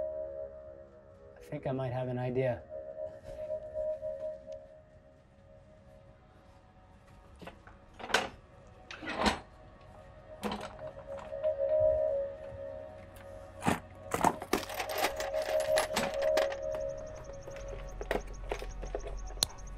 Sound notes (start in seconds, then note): 6.5 wood rattles; 11.6 metal rattles